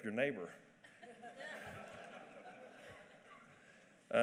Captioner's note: laughter